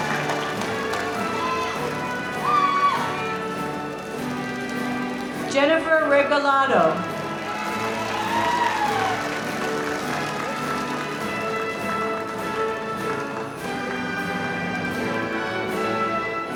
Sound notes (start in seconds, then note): 0.0 audience applauding; 7.6 audience applauding